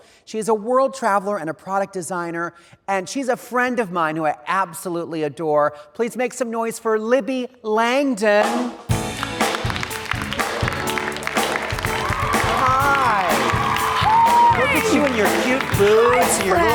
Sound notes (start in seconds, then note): 8.4 jazz music; 9.0 audience clapping